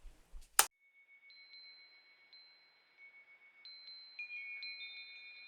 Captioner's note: chimes ringing